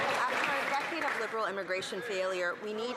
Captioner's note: some Applause